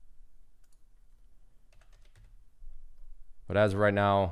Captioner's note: clicking and typing